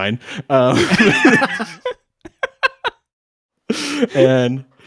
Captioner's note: men laughing